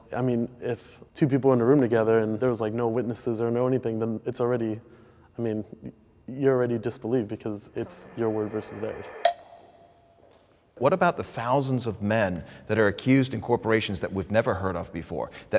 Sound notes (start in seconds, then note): 9.2 bell dings